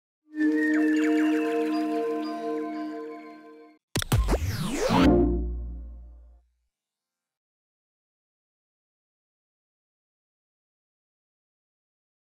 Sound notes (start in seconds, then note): 0.4 birdsong, mystical chiming; 3.9 static buzzes, whooshing, warm tone